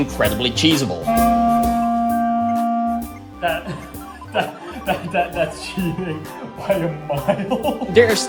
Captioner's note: laughs